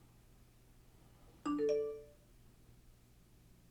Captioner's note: phone ringing